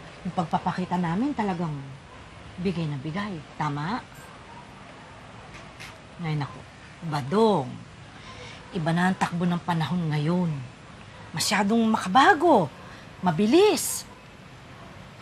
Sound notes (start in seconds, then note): none